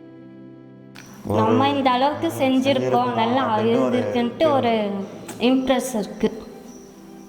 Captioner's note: in Tamil